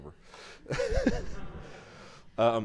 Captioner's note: laughing